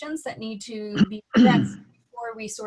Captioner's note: clears throat